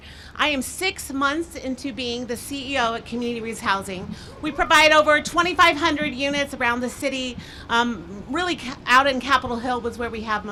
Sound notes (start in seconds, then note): none